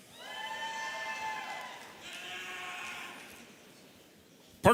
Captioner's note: audience cheering